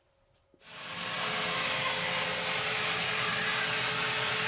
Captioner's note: saw whirring